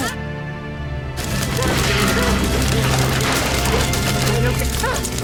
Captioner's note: flames crackling